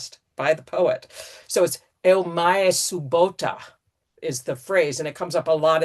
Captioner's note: greek speech